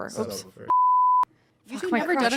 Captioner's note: beep